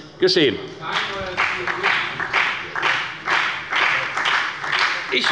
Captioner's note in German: Beifall bei der FDP und bei Abgeordneten der SPD